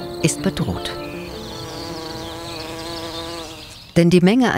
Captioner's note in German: Vielstimmiges Summen und Zirpen